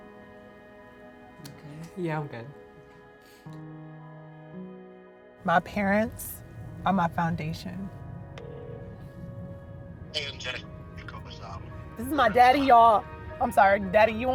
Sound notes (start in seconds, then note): 8.4 phone rings; 10.0 on phone